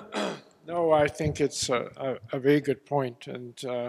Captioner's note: cough